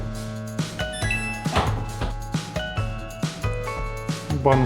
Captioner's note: bright music; device beeps